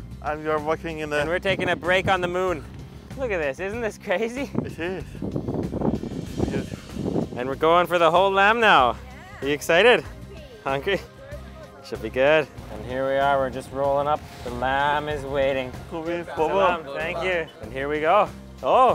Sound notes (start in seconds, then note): 16.2 man speaks in foreign language